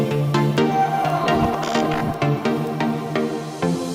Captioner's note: students partying